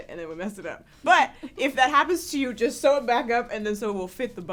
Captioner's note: laughter